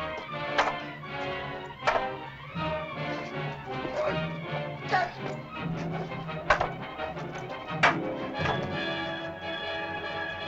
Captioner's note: suspenseful music; staffs bang; suspenseful music